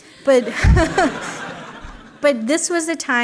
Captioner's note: laughter